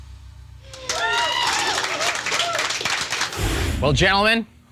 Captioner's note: audience cheering